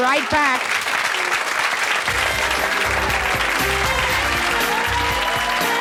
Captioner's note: cheering; lively music